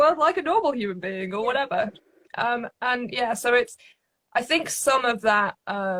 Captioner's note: none